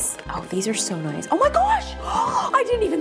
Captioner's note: gasps